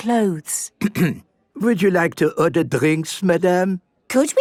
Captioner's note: clears throat